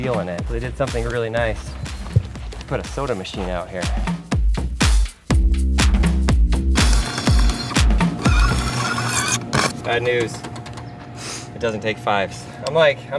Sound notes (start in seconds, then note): 4.4 upbeat music; 6.8 machine hums